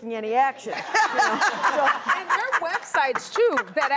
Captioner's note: laughter